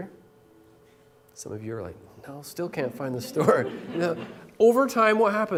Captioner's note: laughter